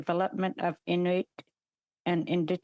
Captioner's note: speaking alternate language